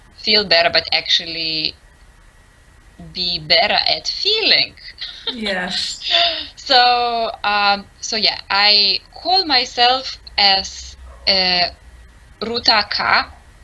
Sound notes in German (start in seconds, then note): 4.6 Lachen